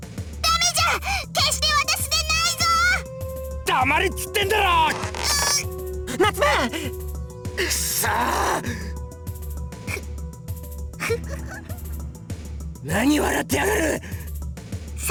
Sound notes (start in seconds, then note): 6.0 choked groan; 11.0 snicker